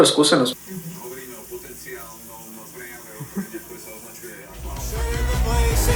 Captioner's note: radio playing